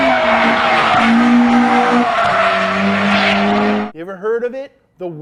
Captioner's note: engine vrooming